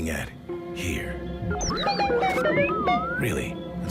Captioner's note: beeping